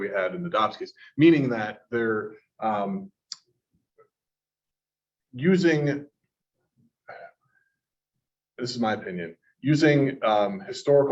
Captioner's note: pause